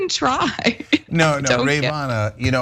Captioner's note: laugh